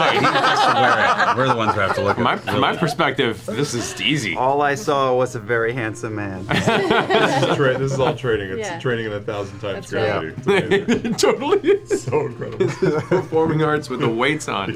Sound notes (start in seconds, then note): 0.0 laughter; 6.5 laughter; 10.4 laughs